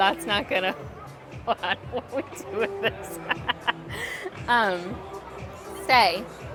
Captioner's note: laughing